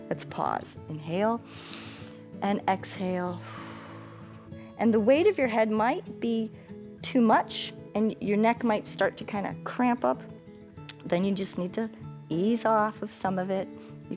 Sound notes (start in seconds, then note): 1.4 inhales; 3.4 exhales